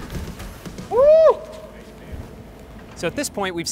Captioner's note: cheers